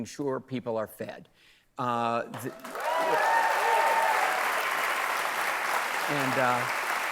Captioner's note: cheers and applause